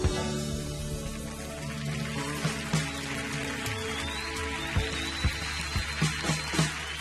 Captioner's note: audience cheering and applauding